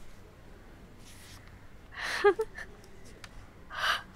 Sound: laughing

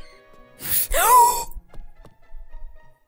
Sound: gasp

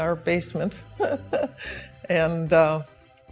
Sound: laughs

